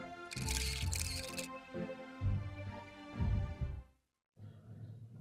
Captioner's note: cameras clicking